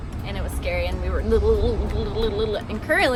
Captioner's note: bumpy sound effect